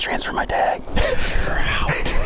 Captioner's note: laughing